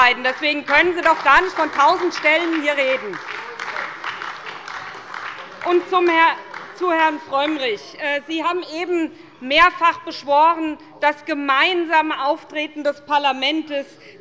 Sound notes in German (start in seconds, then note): 3.6 Beifall bei der SPD